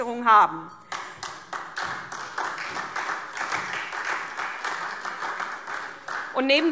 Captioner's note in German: Beifall SPD